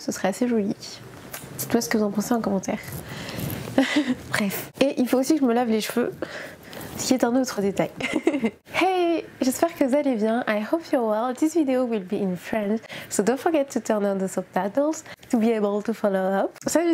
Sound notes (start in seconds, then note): 7.9 laughs